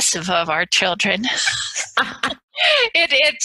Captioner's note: both laugh